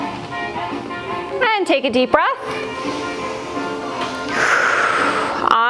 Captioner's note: breath